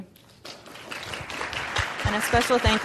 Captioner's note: applause